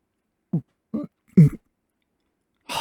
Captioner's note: gulp